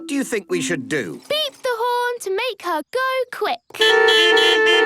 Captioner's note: beeping